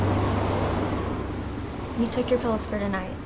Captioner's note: gentle music; insects chirping